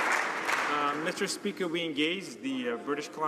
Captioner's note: some Applause